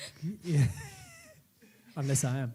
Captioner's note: laughs